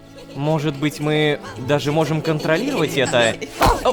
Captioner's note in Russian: Шум детей